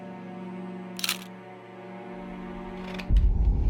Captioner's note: camera shutter clicking; dramatic music